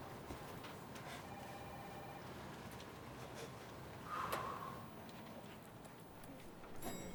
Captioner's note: phone ringing